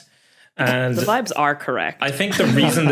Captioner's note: snickers